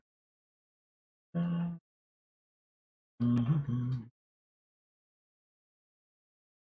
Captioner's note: hums